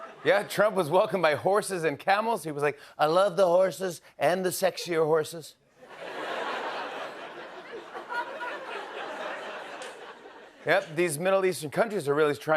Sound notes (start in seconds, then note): 5.8 laughter